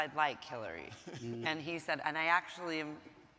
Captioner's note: laughing